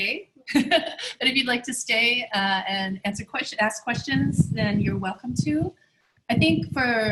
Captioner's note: chuckles